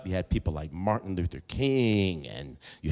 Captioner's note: none